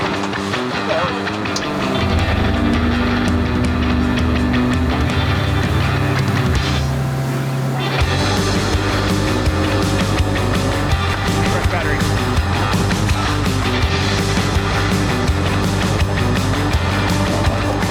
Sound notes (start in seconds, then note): 0.5 boat engine roaring; 8.0 bright upbeat music